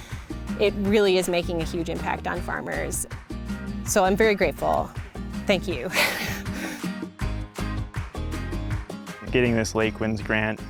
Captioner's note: chuckles